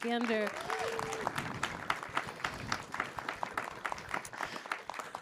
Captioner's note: attendees cheer and applaud